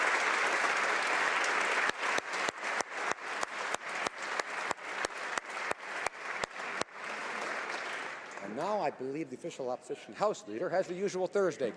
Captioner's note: applause